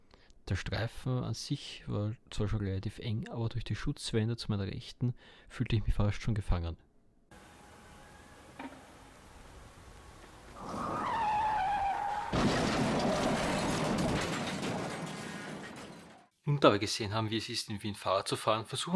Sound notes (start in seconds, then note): 10.5 accident noises